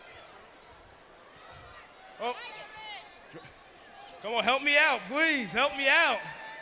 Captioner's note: crowd chatter